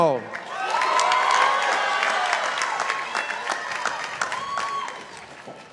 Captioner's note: participants applauding